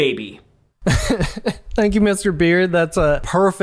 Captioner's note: laughing